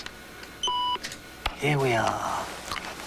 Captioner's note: beep of computer